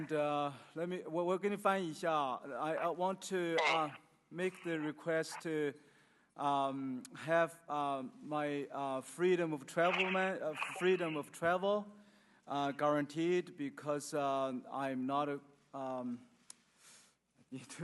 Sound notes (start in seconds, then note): 0.2 speaking Chinese; 4.9 speaking English